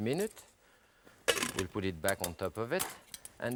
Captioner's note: pan cover clatters